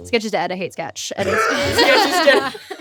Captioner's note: all laughing